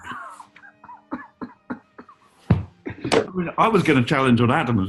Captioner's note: sniggering